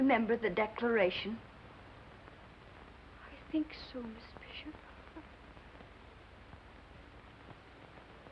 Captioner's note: foreign accent